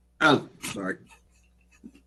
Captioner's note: laugh